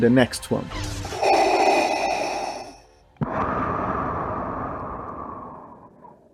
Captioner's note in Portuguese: respiração sinistra do Darth Vader